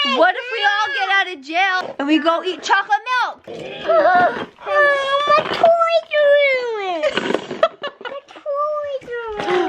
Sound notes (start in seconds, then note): 7.5 laughing